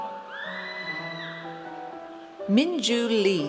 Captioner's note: audience cheers